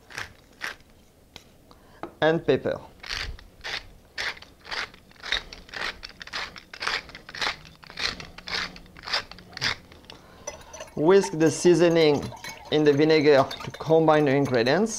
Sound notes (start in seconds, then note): 0.0 grinding sounds; 4.1 grinding sounds